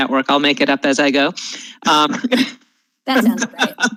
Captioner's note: laughs